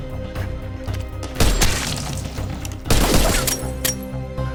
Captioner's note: upbeat melancholic music; gunshots